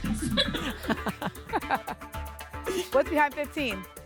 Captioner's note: laughter